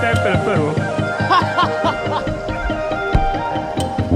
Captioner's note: laughs